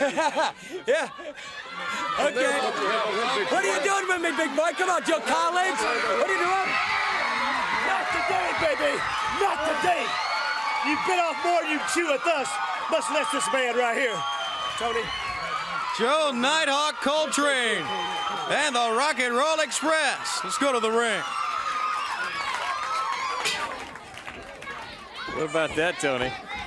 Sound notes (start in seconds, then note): 1.5 crowd chatter; 6.5 crowd cheering; 11.8 crowd cheering; 22.7 crowd cheering